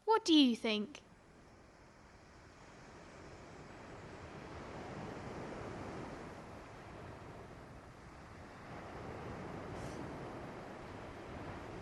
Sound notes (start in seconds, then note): 2.6 sounds of waves and birds